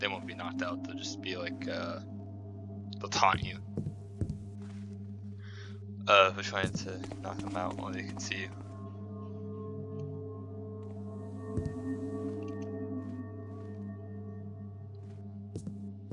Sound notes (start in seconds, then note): 10.2 high pitched ringing fades in; 13.5 ringing fades out